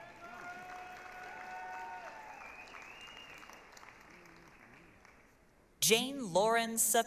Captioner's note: applause, cheering